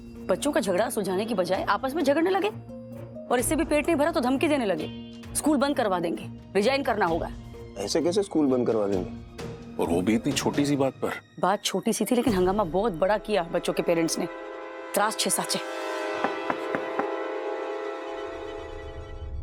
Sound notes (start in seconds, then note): 14.7 speaking in regional language; 16.2 door knocks